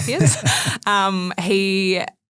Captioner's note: group laughing